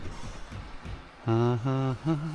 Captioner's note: humming